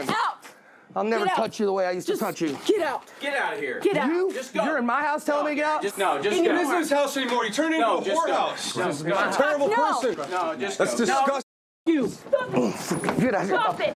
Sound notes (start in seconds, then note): 12.5 grunting